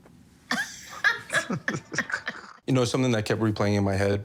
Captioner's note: both laughing